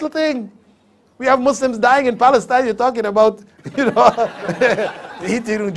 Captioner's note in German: Lachen